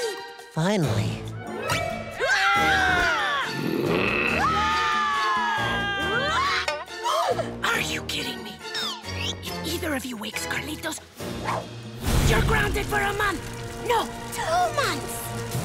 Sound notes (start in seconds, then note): 3.4 growling; 4.2 screaming; 6.2 gasping; 7.5 whispering